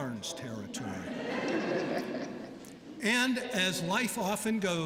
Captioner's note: laughter